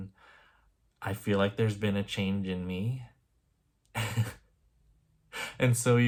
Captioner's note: chuckle